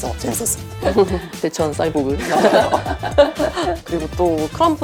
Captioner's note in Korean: 웃음